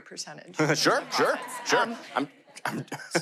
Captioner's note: audience laughter